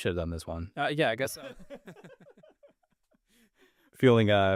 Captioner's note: both laughing